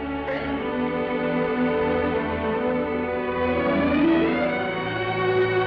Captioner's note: gentle music; Vicki sobs